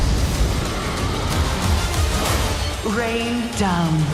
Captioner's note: dragon roaring